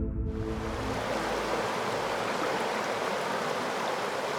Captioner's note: water roars